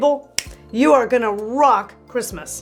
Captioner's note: snaps fingers